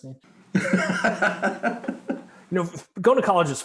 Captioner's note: laughing